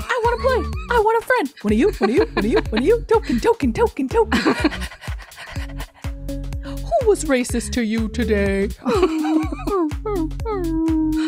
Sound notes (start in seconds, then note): 4.7 imitates a panting dog; 9.1 imitates a whining dog